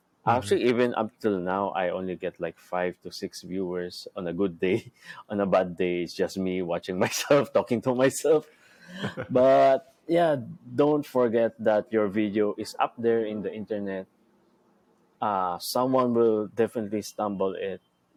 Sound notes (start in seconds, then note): 4.7 chuckles; 8.9 chuckles